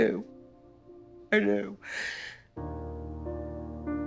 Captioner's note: sobs; somber music